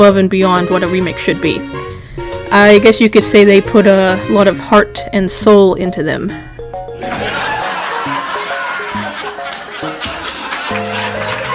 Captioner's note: laugh Track